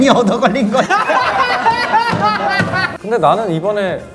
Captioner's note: laughing